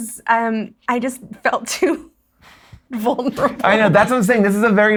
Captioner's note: laughs